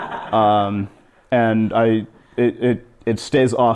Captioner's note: laughter